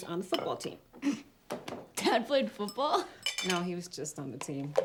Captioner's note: chuckles